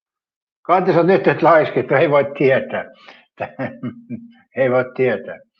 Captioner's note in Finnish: naurua